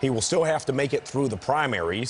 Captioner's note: cheers and applause